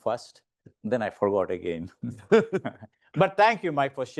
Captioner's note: chuckling